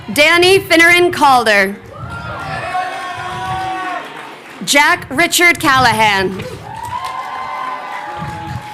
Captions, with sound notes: Danny Finneran Calder. (crowd cheering) Jack Richard Callahan.